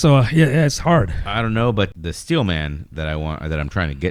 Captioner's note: uh